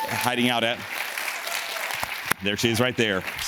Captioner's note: audience claps and cheers